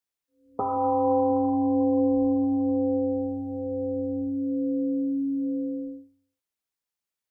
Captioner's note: temple gong rings and fades